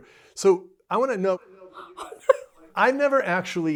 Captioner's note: Lucy laughs